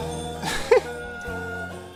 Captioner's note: chuckles